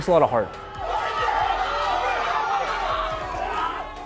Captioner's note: crowd cheers